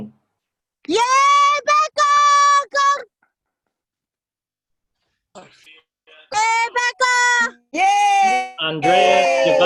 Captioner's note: cheering